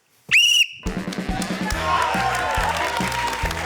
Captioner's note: whistle trills; cheering, applause